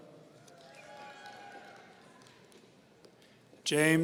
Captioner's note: audience cheering